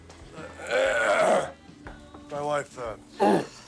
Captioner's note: clears throat